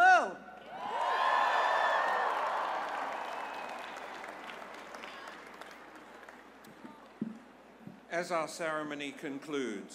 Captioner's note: cheers and applause